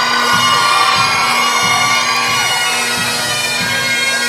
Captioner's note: crowd cheering